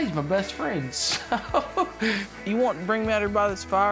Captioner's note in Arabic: ضحك